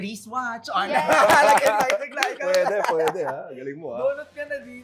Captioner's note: laughing